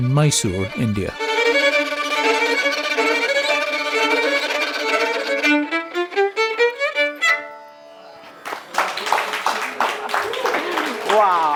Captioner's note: applause